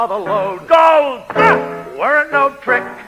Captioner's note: grunts